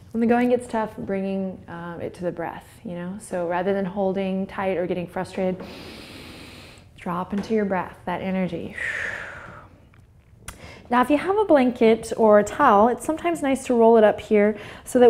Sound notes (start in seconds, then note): 5.6 inhales; 8.7 exhales